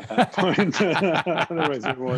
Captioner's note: laughter